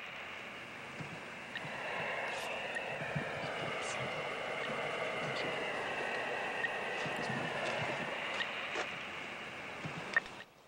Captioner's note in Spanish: sonido radioeléctrico